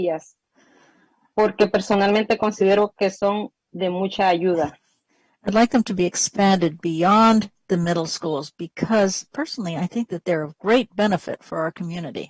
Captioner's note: speaking spanish